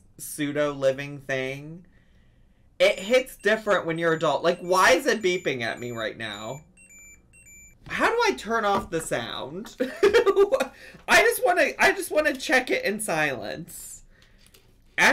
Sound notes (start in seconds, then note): 6.5 Tamagotchi beeps; 11.0 laughs